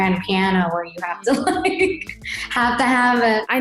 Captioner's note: laughs